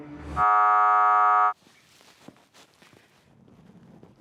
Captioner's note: buzzer sounds